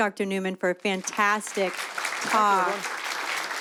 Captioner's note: applause